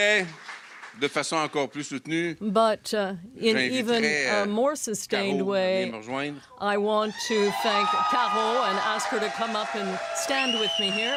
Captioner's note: applause